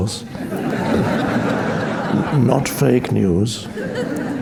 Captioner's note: audience laughing